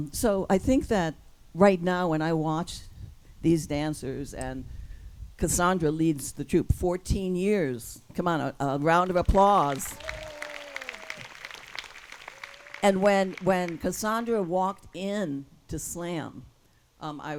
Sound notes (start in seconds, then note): 8.9 audience claps and cheers